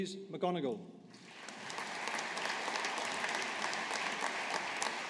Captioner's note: audience applauding